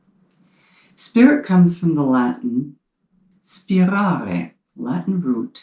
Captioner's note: speaks in foreign language